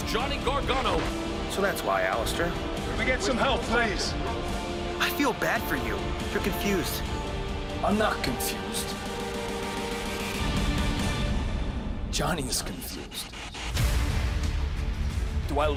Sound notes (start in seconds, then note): none